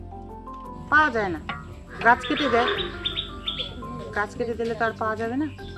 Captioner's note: speaking foreign language